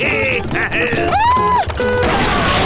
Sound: cheering; screaming

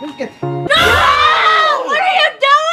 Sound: screaming

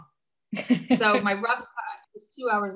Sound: laughing softly

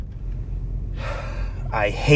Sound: sighs

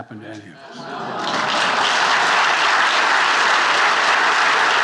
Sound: attendees applauding

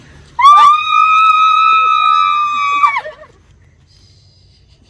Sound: screams

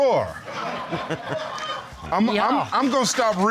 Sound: audience laughing

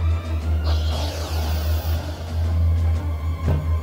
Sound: pneumatic door opening

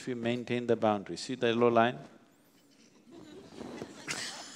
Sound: laughs

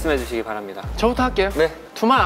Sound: sassy

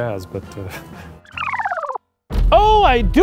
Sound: film rewinding

